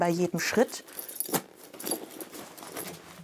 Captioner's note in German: Dumpfes Rascheln